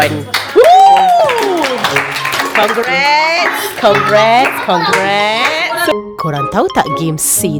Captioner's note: claps